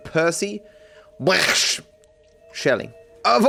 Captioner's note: speaks Australian